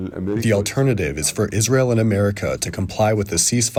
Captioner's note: through translator